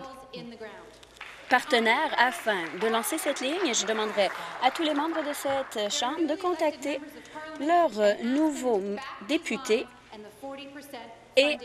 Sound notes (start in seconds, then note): 5.0 applause